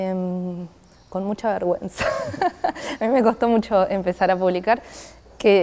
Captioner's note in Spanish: risas